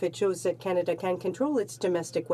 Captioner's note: speaking French